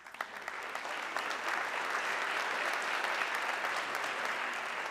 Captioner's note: audience clapping